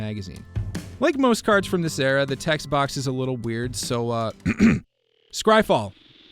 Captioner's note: clears throat